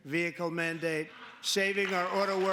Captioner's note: applause; cheering